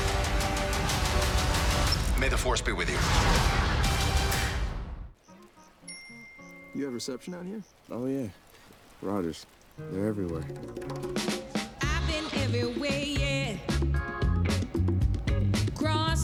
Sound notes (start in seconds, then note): 5.8 text bing